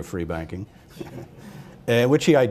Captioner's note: laughter